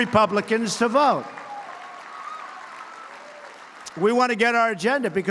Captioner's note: applause